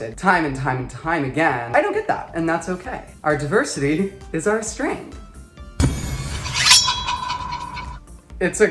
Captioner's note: shade noise